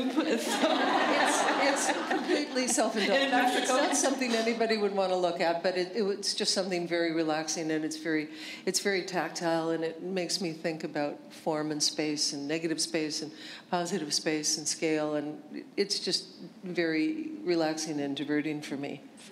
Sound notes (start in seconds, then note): 0.3 laughter